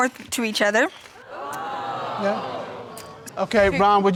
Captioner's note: crowd